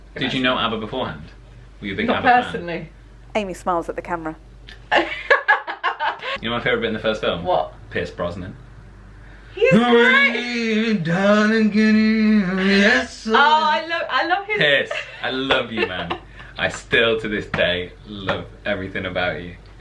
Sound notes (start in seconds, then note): 4.8 laughter; 10.1 Doing an impression of Pierce Brosnan